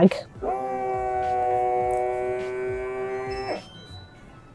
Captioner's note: sealer buzzing